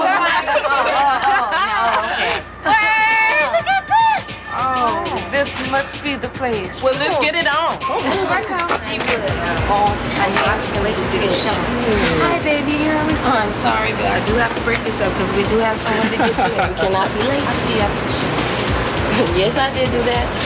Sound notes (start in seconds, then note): 0.0 group laughing; 7.9 group chattering; 15.9 boyfriend laughing